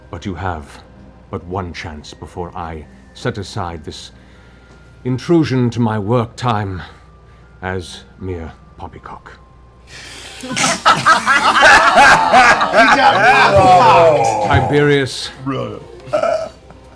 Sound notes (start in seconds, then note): 10.2 laughter